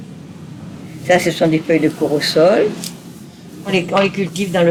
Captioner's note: French spoken audio